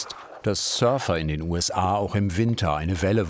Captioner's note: none